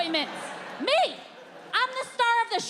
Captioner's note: audience laughing